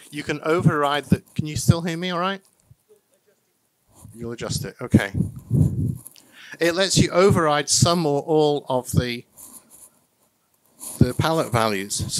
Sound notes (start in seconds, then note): 2.8 someone chattering faintly